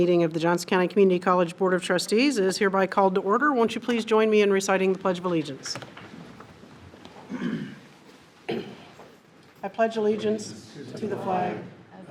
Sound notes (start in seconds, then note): 8.4 people clear their throats; 9.4 chairs rustle